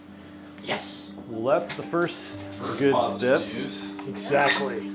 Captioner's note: voice offscreen